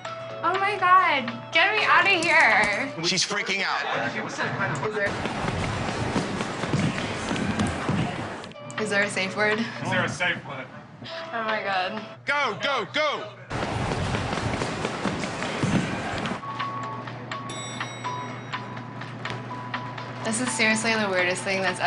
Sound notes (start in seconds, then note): 17.4 bell dings